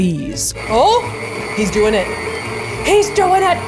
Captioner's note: machine whirling